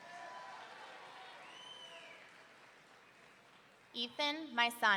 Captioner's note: audience cheering